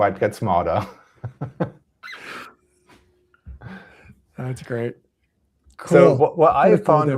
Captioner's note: laughs